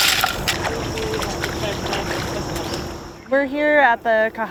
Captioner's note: water splashing